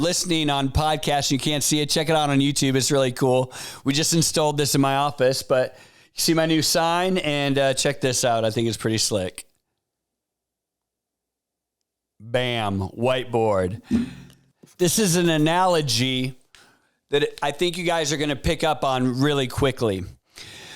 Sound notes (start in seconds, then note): 13.8 bam